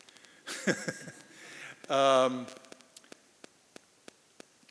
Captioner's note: chuckles